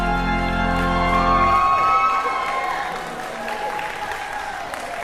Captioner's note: organ music ends; cheering